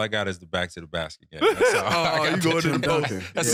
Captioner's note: laughing